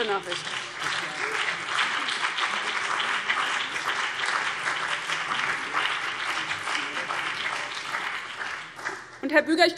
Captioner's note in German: Beifall BÜNDNIS 90/DIE GRÜNEN und vereinzelt CDU